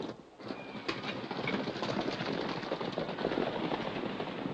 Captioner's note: horses galloping